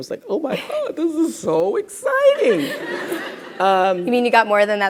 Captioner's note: crowd laughs